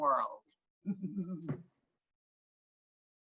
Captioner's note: laughing